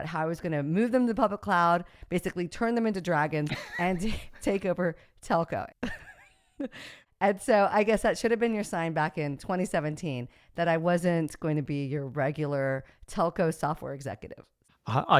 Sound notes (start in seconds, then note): 5.6 laughs